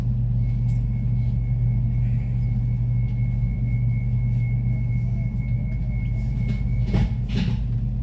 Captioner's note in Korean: 출입문 닫힘